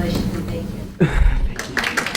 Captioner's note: chuckles